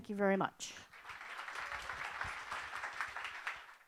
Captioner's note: applause